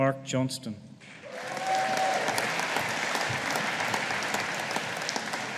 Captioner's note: audience applauding